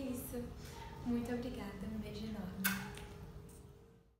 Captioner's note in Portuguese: beijo